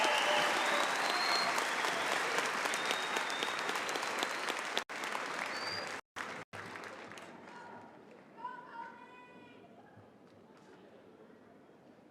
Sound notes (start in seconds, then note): 0.0 cheering and applause